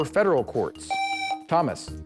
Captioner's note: buzzer